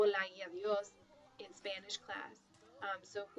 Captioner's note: speaking spanish